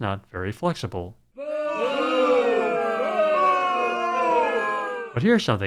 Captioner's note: crowd booing